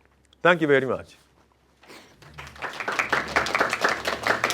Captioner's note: applause